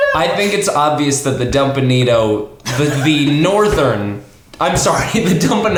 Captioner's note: laughing; others laugh at mispronunciation